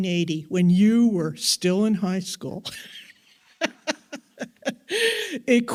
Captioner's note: laughs